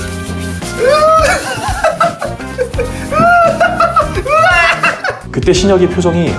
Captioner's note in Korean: 웃음소리